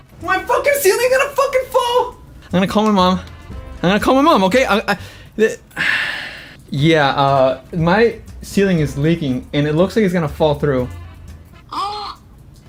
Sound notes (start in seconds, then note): 5.5 sighs; 12.2 gasps